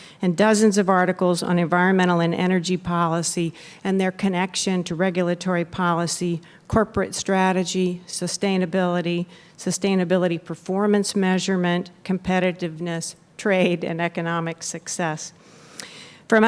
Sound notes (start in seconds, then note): none